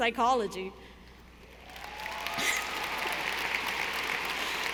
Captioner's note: audience applauding